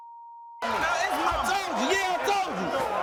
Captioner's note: booing